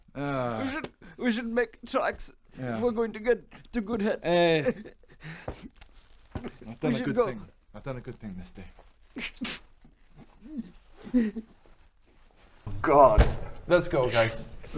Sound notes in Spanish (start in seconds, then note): 3.8 sollozos; 9.2 lamentos; 10.2 llantos